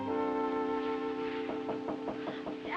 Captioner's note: knocking